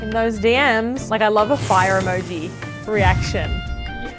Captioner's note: fire blazes